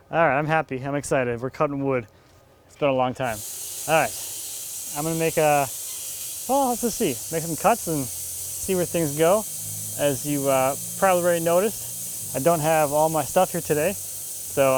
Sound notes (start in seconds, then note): 4.4 saw whirring